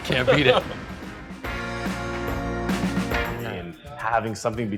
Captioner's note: laughing